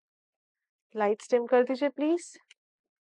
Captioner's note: in Urdu